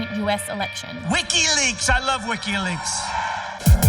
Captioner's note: crowd cheers